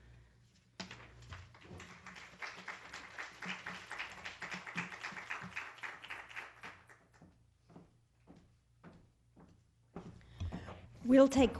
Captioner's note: applause